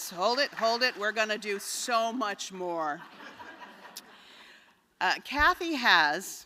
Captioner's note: laughter